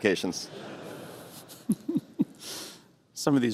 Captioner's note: laughter